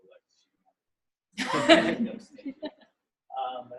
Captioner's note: laughter